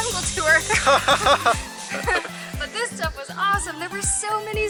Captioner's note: laughter